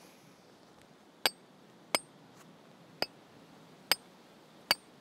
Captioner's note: metal clanging